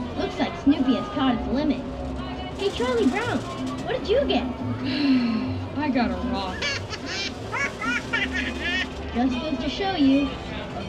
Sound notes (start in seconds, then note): 4.8 sighs; 6.5 Snoopy laughs